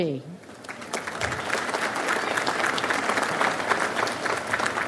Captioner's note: audience applauds